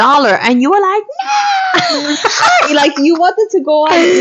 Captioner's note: laughing